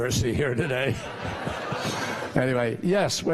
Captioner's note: laughter